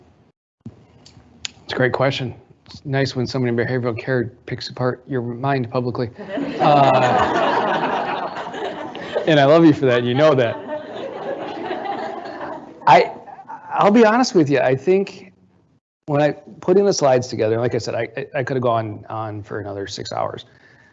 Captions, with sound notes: - That's a great question. It's nice when somebody in behavioral care picks apart your mind publicly. (audience laughing) And I love you for that, you know that. I'll be honest with you, I think, when I, putting the slides together, like I said, I could have gone on for another six hours,